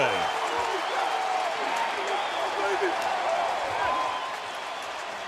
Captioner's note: cheering